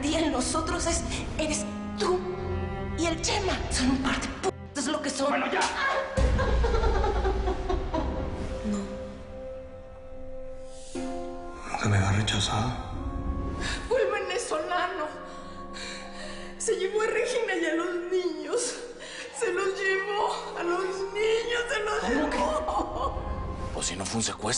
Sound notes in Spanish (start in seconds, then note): 7.1 Sollozos; 14.5 Sollozando